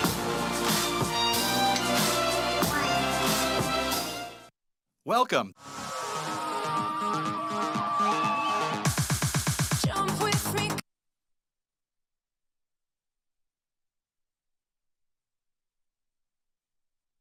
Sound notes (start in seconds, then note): 6.0 students cheering; 7.3 upbeat music